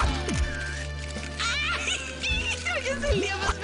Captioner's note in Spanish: Ríe